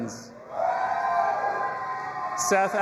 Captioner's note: audience applauding and cheering